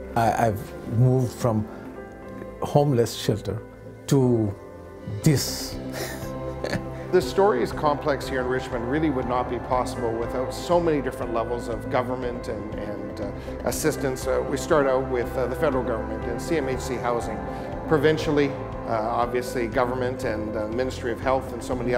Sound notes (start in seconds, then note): 5.9 laughs